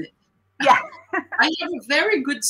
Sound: laughter

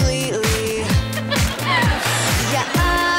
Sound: laughing

